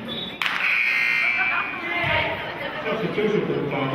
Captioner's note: buzzer sounding